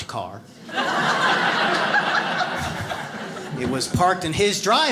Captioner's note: audience laughs